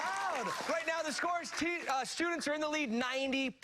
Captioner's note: cheers